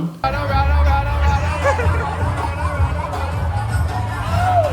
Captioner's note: cheers